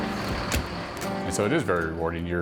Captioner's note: truck engine revving